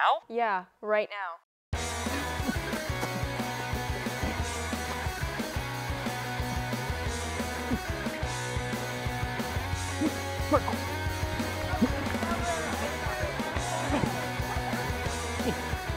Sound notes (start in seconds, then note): 1.6 upbeat music; 8.0 man groaning